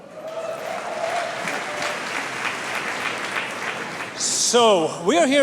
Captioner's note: applause